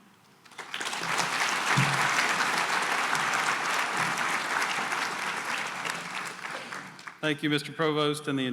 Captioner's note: applause